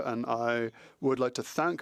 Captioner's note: speaking French